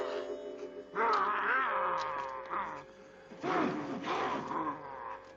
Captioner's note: werewolf growling